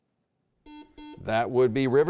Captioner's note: buzzer beeps